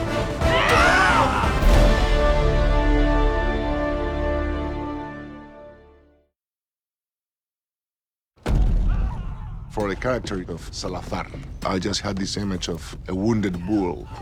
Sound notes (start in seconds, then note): 0.0 yells; 8.4 men screaming